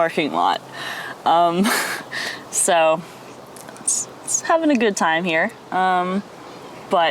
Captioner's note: laughs